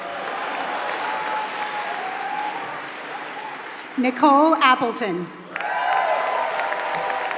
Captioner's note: applause